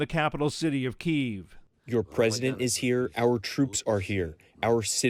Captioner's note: through translator